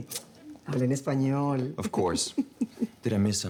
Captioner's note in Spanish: Ríe